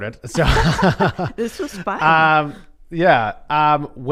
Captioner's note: laughs